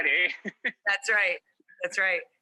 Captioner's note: laughs